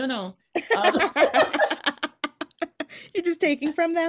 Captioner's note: laughing